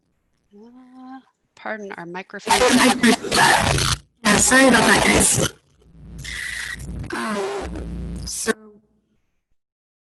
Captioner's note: static noise